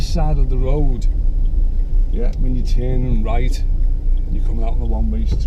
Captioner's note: indicator clicking